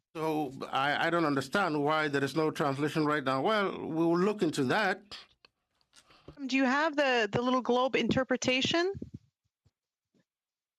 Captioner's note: speaking French